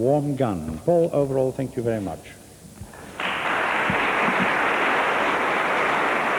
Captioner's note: applause